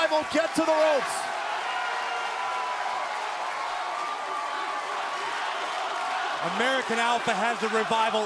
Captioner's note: crowd cheering